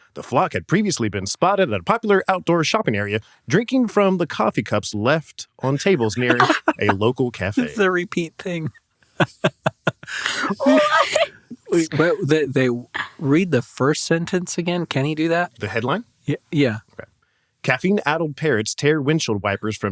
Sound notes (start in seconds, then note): 5.6 group laughs; 9.2 laughs